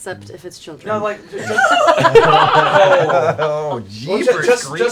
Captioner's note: laughter